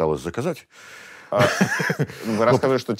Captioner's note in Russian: смеется